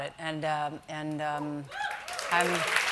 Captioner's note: cheers and applause